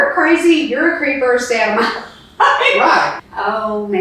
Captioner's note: laughs